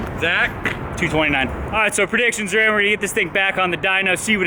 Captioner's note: engine volume increases